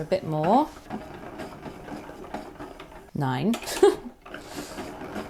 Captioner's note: ball winder ticks whirs